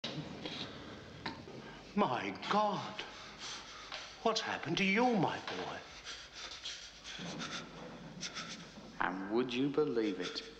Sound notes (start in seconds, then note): 5.1 shivering